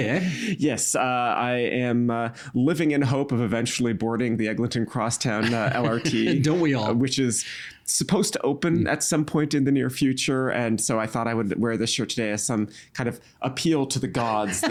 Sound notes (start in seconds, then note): 5.4 chuckling